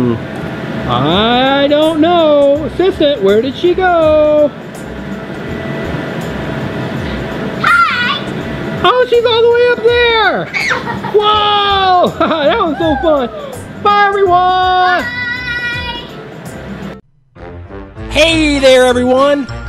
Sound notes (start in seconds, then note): 10.5 screams; 11.9 laughs